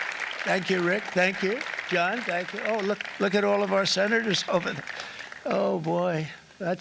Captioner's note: applause